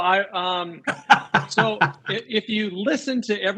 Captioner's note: laughs